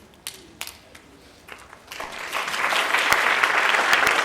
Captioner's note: audience applauding